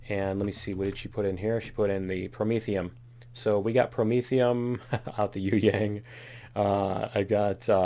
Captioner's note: laughs